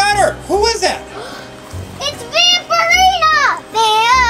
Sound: gasp

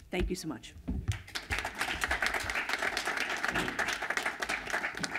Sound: applause

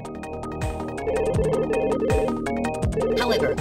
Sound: phone ring

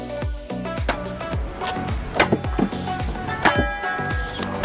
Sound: chopping noise

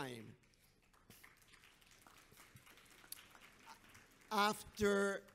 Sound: audience applauds

